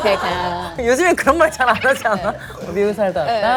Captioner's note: hahaha